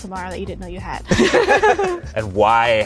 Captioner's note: laughing